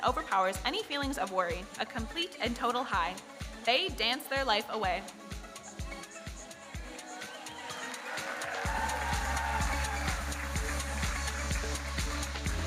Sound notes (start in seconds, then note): 7.2 audience cheering and applauding